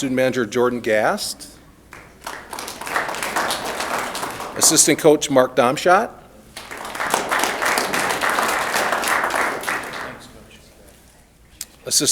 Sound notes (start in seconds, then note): 1.8 applause; 6.5 applause